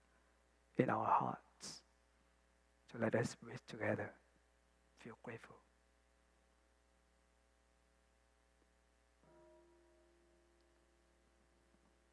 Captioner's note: bell